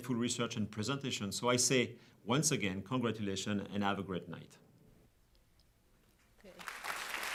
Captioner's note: applause